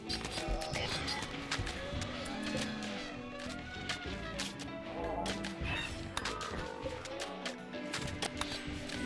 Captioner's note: click